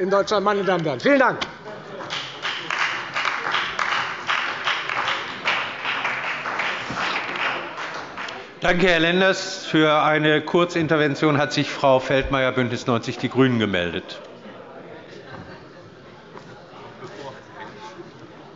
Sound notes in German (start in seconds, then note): 2.0 Beifall bei der FDP und bei Abgeordneten der CDU